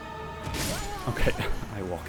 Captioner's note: chuckles